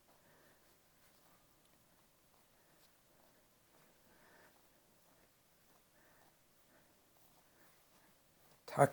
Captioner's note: silence